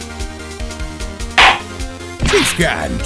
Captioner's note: gavel slams!